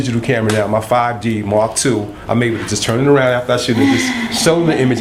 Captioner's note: laughter